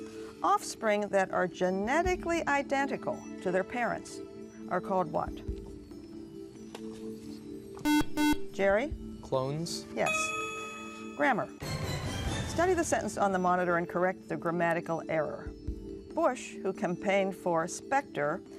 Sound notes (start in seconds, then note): 6.1 whispering; 7.8 buzzer